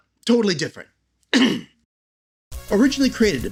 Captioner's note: ahem